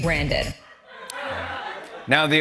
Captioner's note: laughter